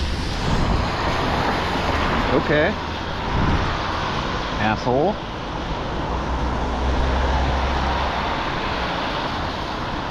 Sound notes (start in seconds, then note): none